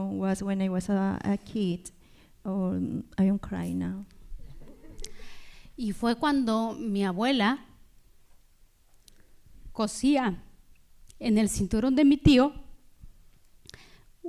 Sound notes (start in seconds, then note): 5.8 speaking spanish